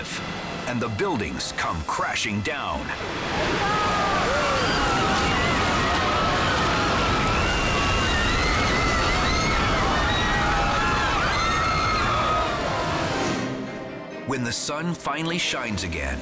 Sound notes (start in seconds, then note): 2.8 bystanders clamor; 3.1 building rumbles; 9.3 bystanders scream